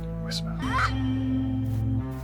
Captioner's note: whisper